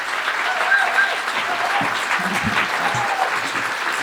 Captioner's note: applause